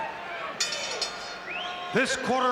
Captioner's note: bell rings